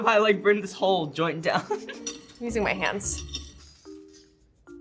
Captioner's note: giggles